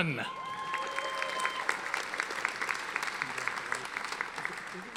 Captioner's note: audience applauding